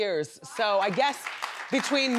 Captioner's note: audience clapping